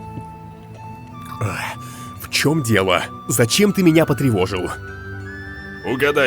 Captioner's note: swallows food